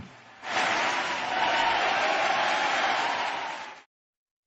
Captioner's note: crowed cheers